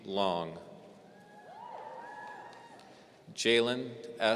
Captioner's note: audience cheering